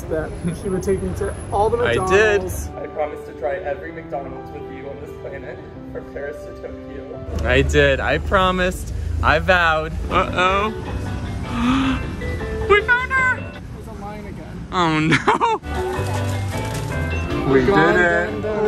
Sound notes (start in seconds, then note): 11.5 gasps; 15.6 upbeat music